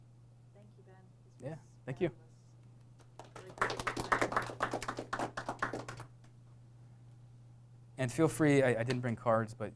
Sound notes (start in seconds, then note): 3.0 applause